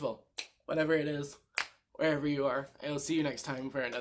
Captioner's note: snap